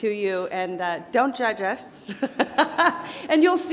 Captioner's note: laughs